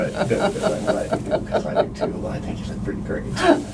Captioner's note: laughing